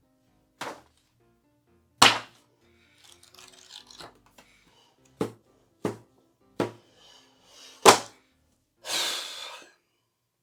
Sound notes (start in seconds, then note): 2.0 aggressive smack; 5.0 bang bang bang; 7.8 slams planner onto desk; 8.7 exhausted raspberry